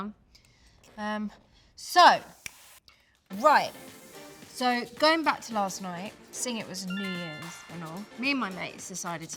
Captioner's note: notification sound